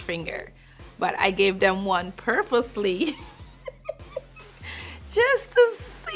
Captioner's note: laughs